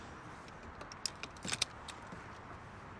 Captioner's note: clicks